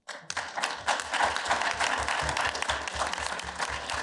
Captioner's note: applause